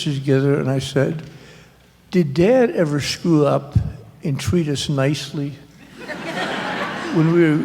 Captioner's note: laughter